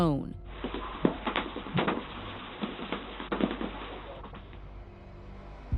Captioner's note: clattering